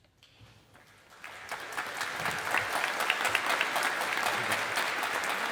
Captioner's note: audience applauding